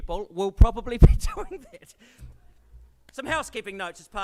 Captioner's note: laughs